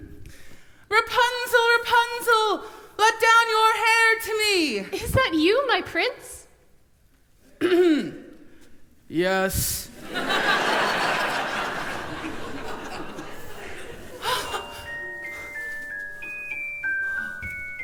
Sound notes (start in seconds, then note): 7.3 low voice